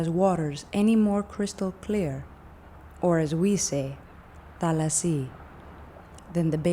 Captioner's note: speaking greek